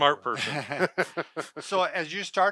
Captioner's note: they laugh